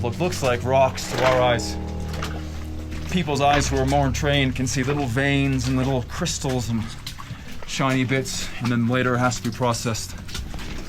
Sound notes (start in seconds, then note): 6.3 boots splashing